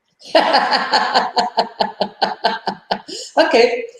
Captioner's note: laughs out aloud